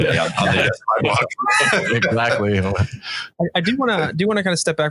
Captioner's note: all participants laughing